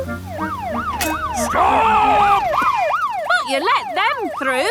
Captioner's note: siren wailing